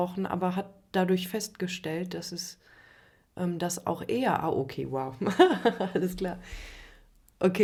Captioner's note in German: gelächter